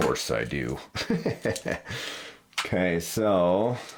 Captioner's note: laughs